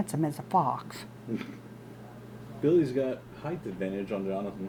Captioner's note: chuckles